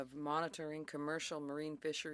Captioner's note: speaking French